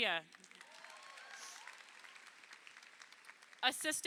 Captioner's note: crowd applauding